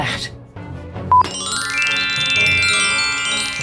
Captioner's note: tinkling bells